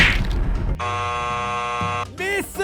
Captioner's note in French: bruit de buzzer